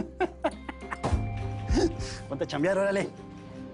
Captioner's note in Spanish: Risas